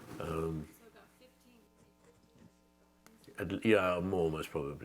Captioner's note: audience member 5 speaks faintly